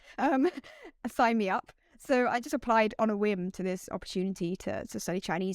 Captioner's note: laughter